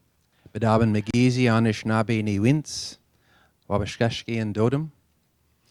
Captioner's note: native tongue spoken